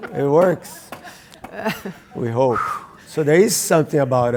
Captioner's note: laugh